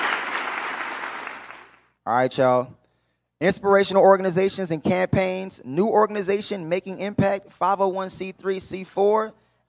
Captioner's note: applause